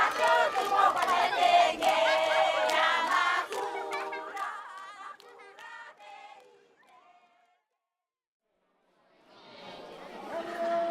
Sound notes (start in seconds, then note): 1.8 children laugh